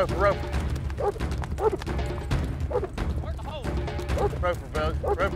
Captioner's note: dog barking